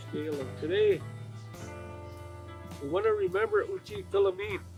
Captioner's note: speaking Native language